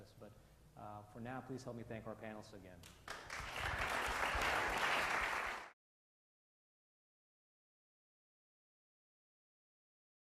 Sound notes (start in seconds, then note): 3.0 audience applause